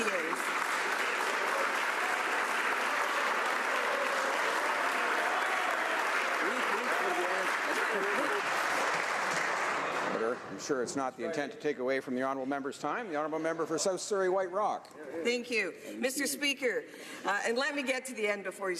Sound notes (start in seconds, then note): 4.7 some Applause